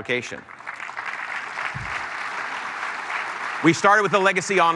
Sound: applause

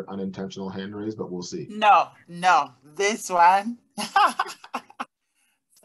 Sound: laughter

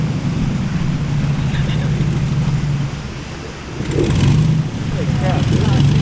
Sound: loud airboat motor running

